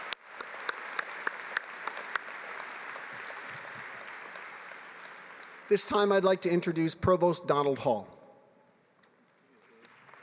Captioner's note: applause